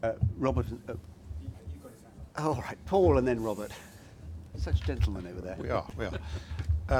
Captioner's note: laughter